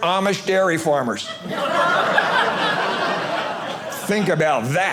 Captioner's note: audience laughing